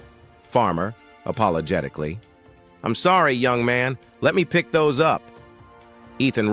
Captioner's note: apologetically